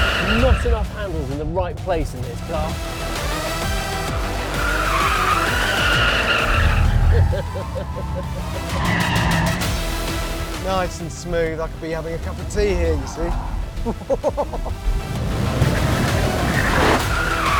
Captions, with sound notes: Not enough handles in the right place in this car. (CHUCKLES) Nice and smooth. I could be having a cup of tea here, you see? Oh-ho-ho.